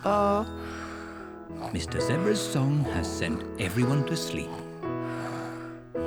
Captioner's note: all snore